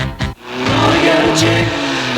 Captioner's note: engine revs